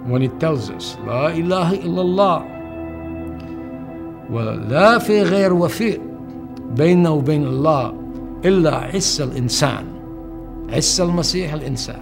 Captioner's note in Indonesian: bahasa Arab